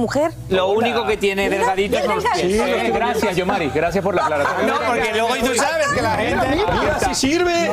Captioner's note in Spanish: risas